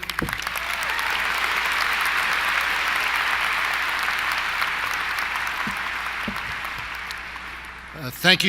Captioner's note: applause